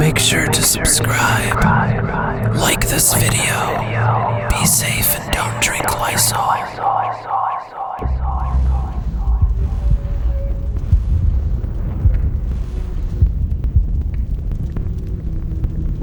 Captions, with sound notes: Make sure to subscribe, like this video; be safe and don't drink Lysol. (eerie music) (fire burning)